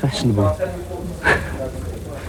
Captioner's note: laugh